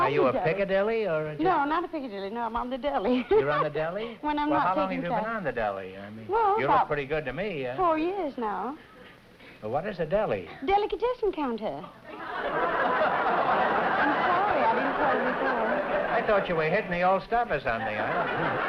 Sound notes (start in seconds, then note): 12.0 laughter